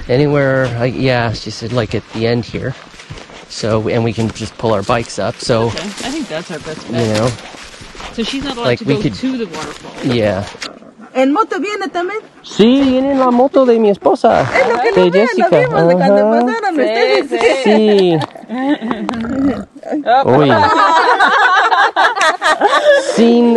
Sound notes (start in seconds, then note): 11.4 people speaking Spanish; 18.8 dog burping; 20.2 all laughing